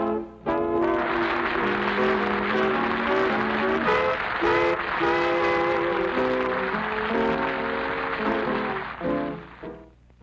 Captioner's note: applause